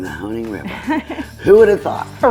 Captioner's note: laughing